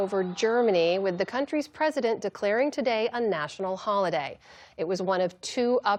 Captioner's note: cheers